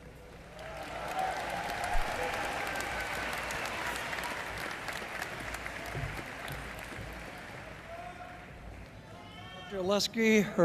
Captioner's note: applause